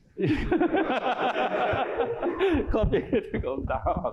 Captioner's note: laughter